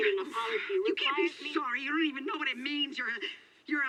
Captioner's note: woman on phone